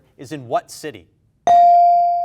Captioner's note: bell dings